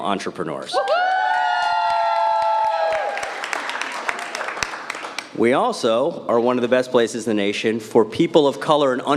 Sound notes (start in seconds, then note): 2.8 cheering